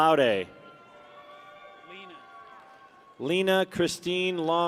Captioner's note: people cheer